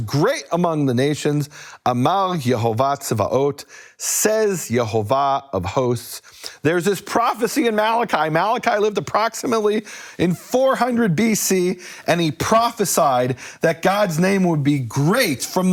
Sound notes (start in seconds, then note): 1.8 speaking in foreign language